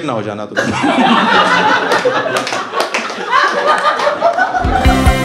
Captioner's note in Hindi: हँसना